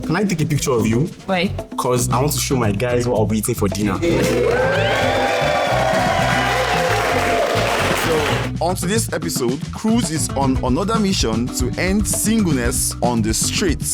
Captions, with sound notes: Can I take a picture of you? Why? Because I want to show my guys what I'll be eating for dinner. (crowd cheering) On today's episode, Cruise is on another mission to end singleness on the streets.